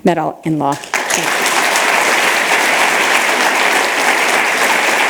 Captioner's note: applause